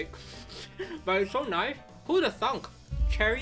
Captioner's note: chuckles